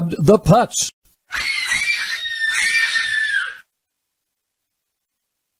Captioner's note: girls screaming